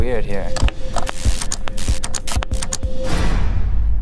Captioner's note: buzzing